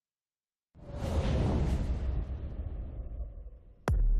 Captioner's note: whoosh